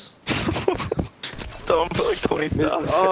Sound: laughter

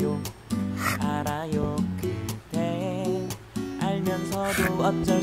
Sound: laughs

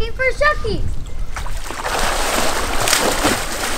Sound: splashing

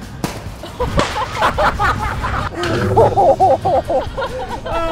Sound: both laughing

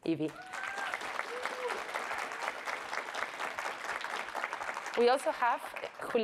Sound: audience applauds and cheers

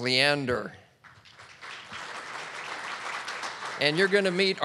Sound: audience clapping

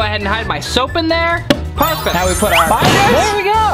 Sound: shimmering

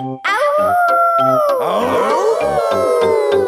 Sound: howling; all howling

